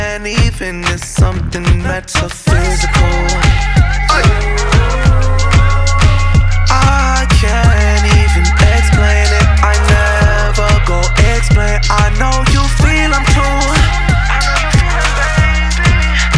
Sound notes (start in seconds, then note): 2.5 ooh